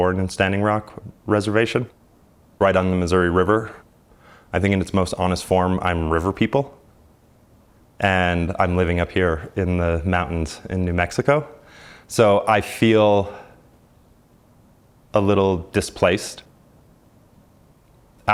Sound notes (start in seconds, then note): none